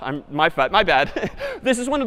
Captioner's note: laughs